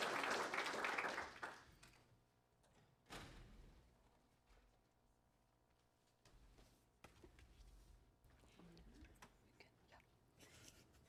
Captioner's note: applause